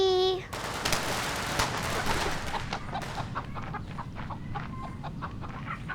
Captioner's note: firecrackers blasting; hen clacking